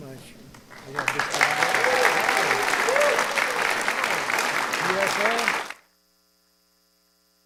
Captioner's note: applause